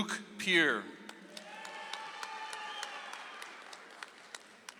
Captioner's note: audience applauds